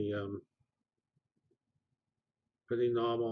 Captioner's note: pause